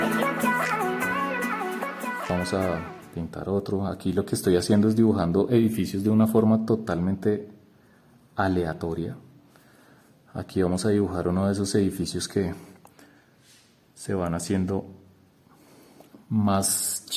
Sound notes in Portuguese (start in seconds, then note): 2.6 em espanhol